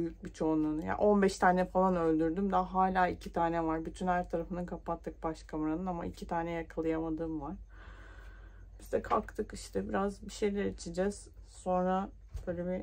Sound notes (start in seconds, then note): none